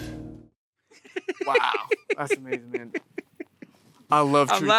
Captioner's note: Matthew laughs